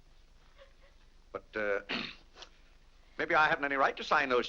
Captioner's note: clears throat